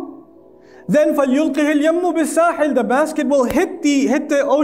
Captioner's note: Arabic